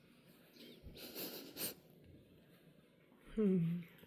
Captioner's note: sniff sniff